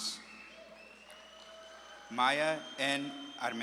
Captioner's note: audience claps and cheers